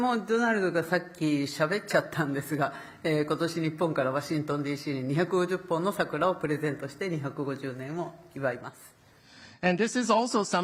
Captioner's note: speaking Japanese